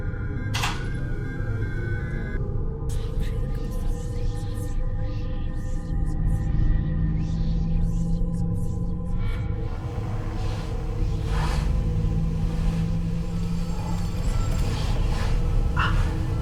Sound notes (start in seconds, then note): 4.3 sinister whispering; 12.6 dramatic music continues